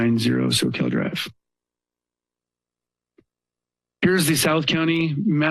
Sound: pause

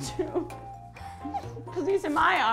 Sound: giggles

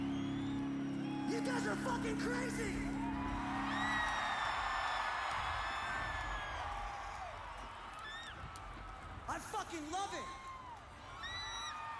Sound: applause

